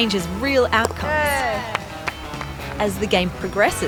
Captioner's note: all cheer